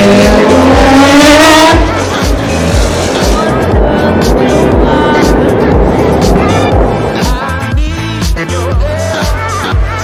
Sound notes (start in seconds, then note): 2.7 engine revving